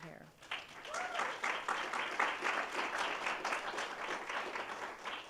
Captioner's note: audience applauding